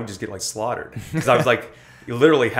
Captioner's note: laughter